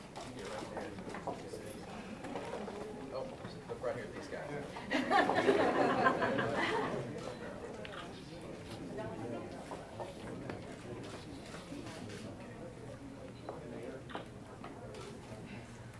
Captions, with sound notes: - Oh, look right here at these guys. (audience laughing) (audience murmuring in the background) (cameras clicking)